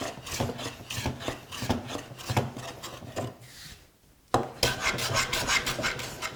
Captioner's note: blade on wood continues rhythmic scraping